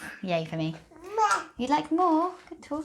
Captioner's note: baby murmurs